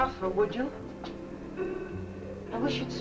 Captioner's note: faint muffled chatter nearby